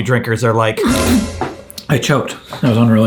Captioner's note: spitting